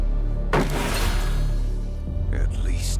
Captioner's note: magic flashing; plank thuds; magic flashing